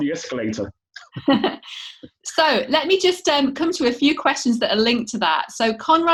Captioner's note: laughter